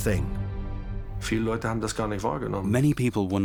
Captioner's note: speaking German